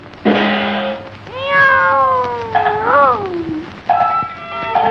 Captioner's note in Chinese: meow…